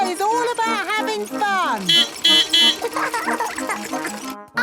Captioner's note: beeping; laughing